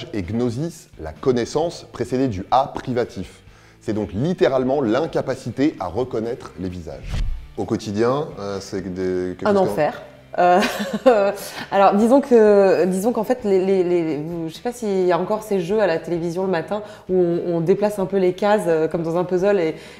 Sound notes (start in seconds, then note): 10.2 laughs